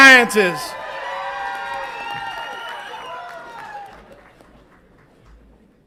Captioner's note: audience applauds and cheers